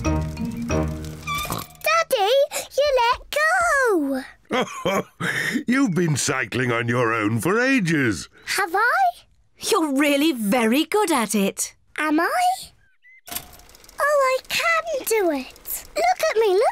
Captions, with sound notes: (SNORTS) Daddy, you let go! (LAUGHS) You've been cycling on your own for ages! -Have I? -You're really very good at it. Am I? Oh, I can do it! Look at me, look at me!